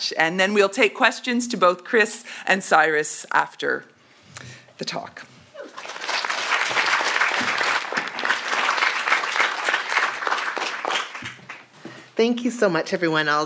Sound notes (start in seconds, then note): 5.6 audience applauds